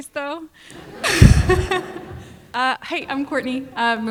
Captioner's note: audience laughs